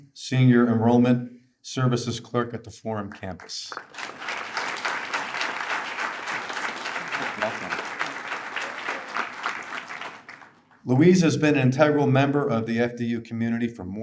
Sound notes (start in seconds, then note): 3.6 attendees applaud